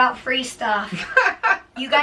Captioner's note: laughs